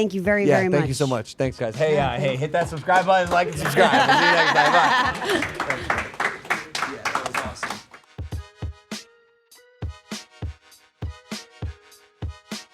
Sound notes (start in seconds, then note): 4.6 crew clapping; 4.6 group laughing; 10.8 upbeat music